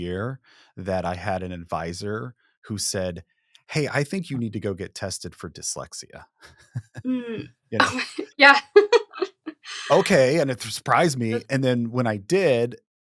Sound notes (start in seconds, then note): 6.4 chuckles; 9.7 giggles